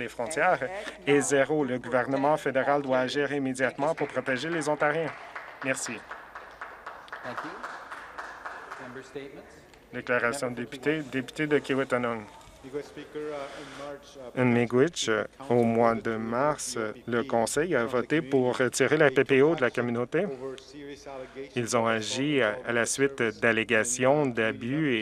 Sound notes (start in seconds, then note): 8.0 some Applause